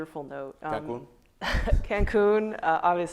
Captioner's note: laughing